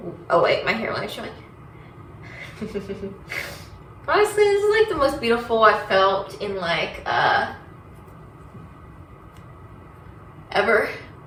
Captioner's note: laughs